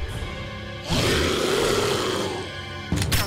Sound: growling

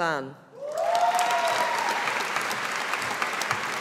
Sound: audience applauding

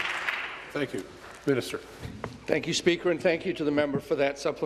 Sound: applause

